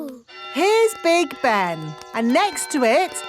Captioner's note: clock chimes